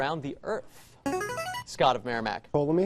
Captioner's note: buzzer